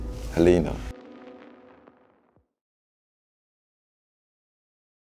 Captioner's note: static crackling